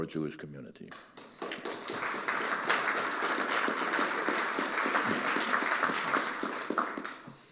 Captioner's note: audience applauding